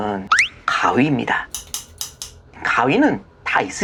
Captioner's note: scissors